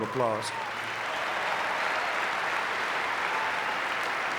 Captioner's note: audience clapping